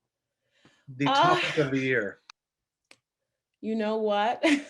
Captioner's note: laughs